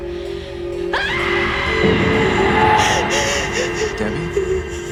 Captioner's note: Laurie screams